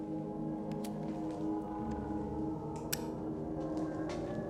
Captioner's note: lighter clicking